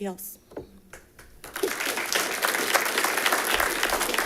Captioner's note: all clapping